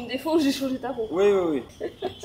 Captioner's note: laughing